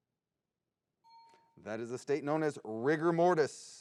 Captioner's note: bell dings